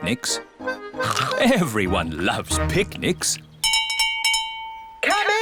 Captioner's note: all chomping; bell rings